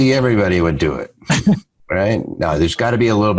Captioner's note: laughs